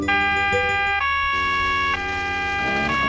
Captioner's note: police siren